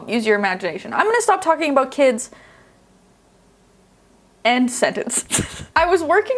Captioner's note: chuckling